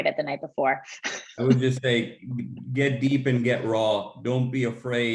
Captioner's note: laugh